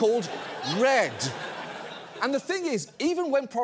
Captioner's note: audience laughs